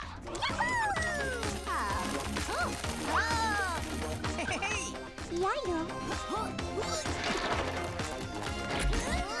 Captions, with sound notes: - Ya-hoo! - Ah... Huh? Whoa! - Hey! (grunting)